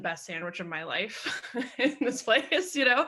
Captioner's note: laughing